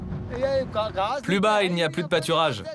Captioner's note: foreign language spoken